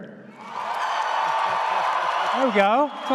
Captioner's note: audience cheers